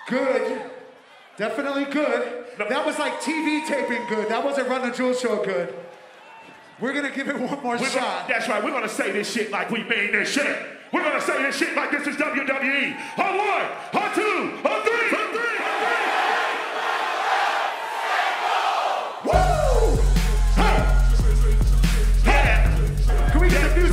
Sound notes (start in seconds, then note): 15.5 crowd; 19.2 upbeat hip-hop music